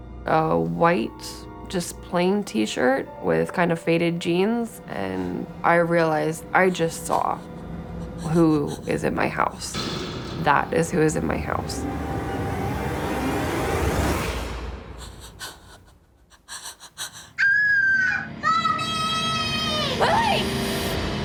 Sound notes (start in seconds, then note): 12.0 intense music; 15.0 Whitney whimpering; 17.3 Lily screams